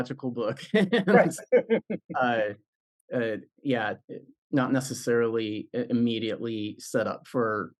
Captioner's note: laugh